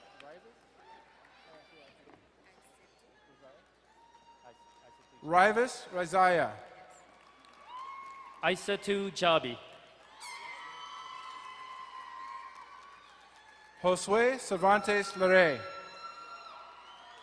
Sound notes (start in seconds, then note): 0.1 distant cheering; 7.4 crowd cheering and applauding; 10.2 crowd cheering and horn blaring; 16.1 crowd cheering and applauding